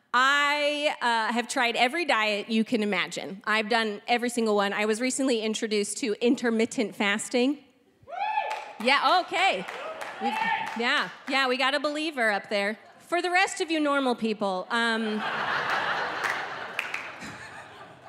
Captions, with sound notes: I have tried every diet you can imagine. I've done every single one. I was recently introduced to intermittent fasting. (audience member cheers) Yeah, okay. Yeah, yeah. We got a believer up there. For the rest of you, normal people, (audience laughing)